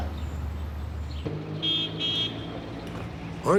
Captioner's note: horn beeps